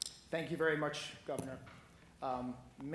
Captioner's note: none